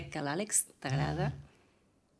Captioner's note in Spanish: Zumbido móvil